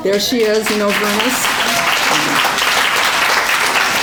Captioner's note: applause